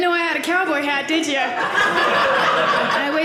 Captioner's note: audience laughing